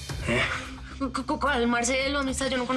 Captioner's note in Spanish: Tartamudeo